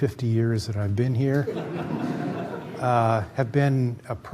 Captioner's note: laughter